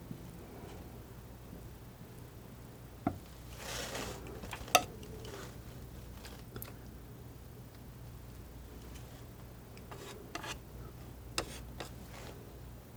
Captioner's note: tapping